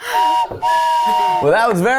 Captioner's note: whistle blows